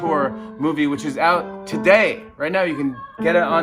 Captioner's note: shouting in distance